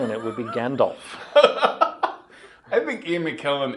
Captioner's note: laughing